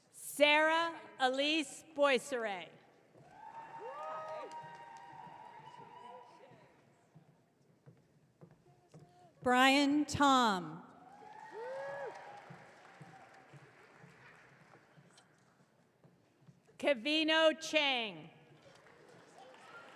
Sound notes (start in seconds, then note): 3.2 audience cheering; 11.1 audience cheering